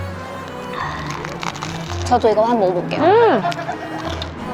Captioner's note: A crispy sound..!